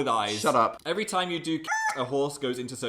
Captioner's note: squawk